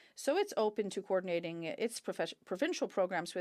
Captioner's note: speaking French